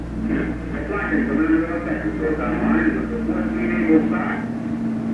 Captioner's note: announcer echoing